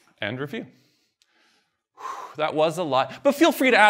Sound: sighs

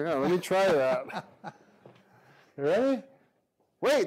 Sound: laughs

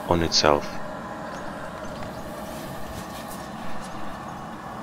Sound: car engine sound

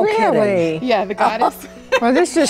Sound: laughs

